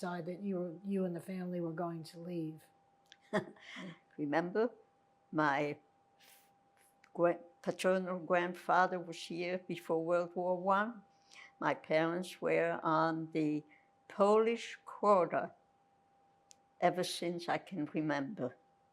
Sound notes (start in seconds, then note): 3.2 laughing